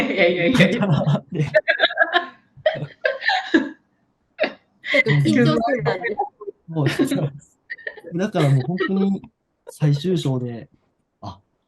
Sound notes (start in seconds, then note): 0.4 laughter